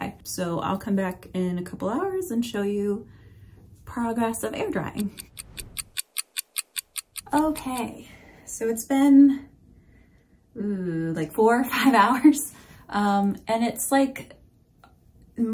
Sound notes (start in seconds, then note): 4.9 fast clock ticking sound